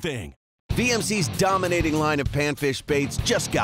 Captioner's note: voiceover